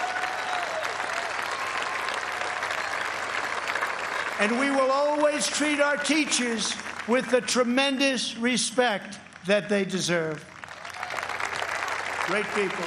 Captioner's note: cheers and applause